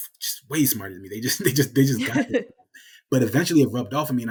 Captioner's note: laughing drowns out speaker